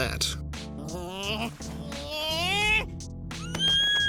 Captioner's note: grumbling; squealing